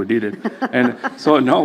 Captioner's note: laughs